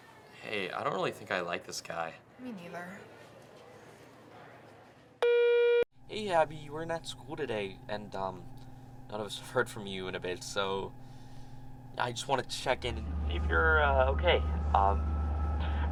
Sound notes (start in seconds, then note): 5.2 voicemail beeps